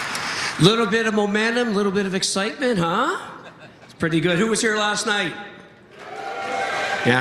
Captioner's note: cheering